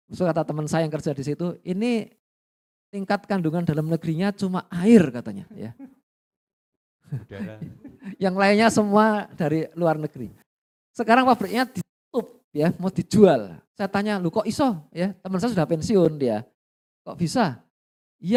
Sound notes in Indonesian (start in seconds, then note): 7.1 tertawa